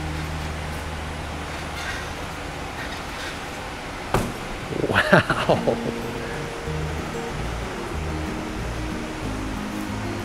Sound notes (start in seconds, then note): 4.1 feet thud; 4.7 chuckles; 7.0 bright music